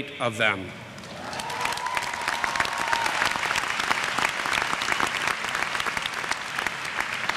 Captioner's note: applause